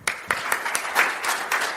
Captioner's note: applause